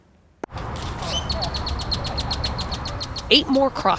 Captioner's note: birds chirping